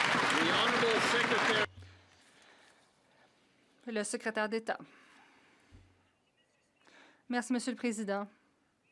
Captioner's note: some Applause